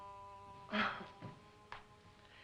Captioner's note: dramatic music; chuckles